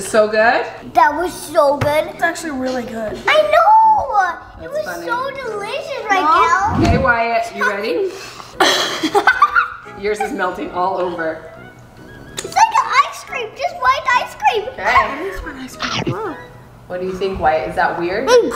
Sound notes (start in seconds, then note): 8.6 laughter